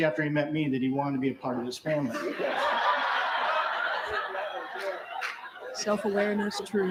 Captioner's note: laughter